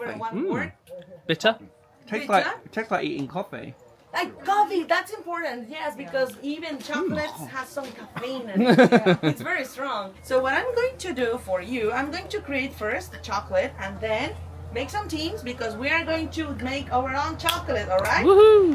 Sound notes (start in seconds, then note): 8.6 laughing; 8.7 coughs